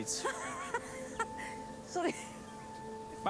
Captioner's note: laughs